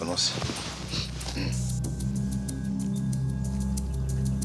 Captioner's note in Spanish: Carraspea